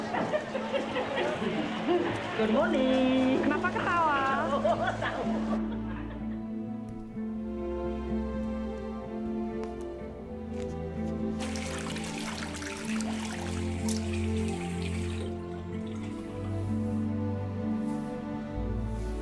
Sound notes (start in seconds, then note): 2.1 woman No.2 speaking native language; 4.3 woman laughs